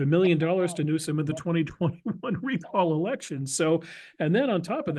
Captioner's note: laugh